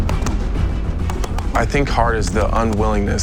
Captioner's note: strikes landing with a thud